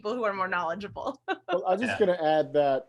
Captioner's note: laughs